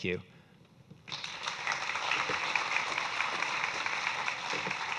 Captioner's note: audience clapping